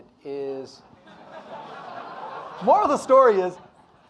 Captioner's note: audience laughing